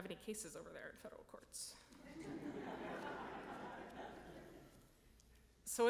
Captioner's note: audience laughing